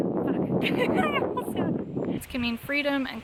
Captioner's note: laughs